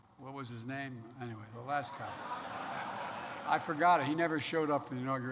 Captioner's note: laughter